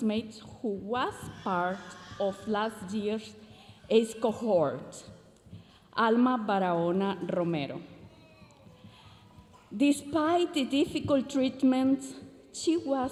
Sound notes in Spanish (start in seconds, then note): 3.5 continúa hablando en inglés